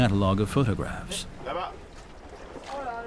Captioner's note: speaking French